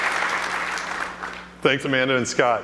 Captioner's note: applause